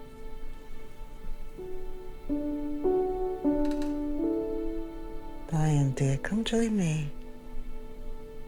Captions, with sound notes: (sentimental music) (floor creaking) Diane, dear, come join me.